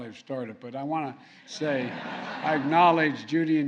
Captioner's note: laughter